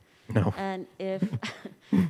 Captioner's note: chuckles